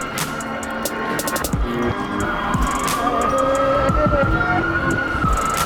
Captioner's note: street noise and sirens